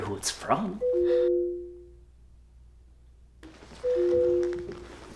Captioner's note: phone ringing